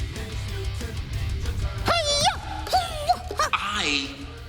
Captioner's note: grunting